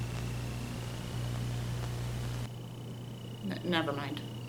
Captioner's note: Static